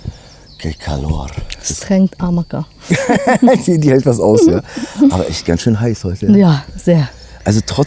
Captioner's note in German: gelächter